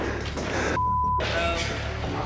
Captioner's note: beep